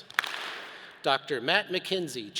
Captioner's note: all clap